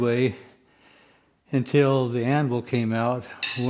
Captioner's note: hammer